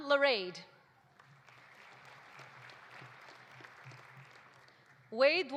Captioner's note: audience applauding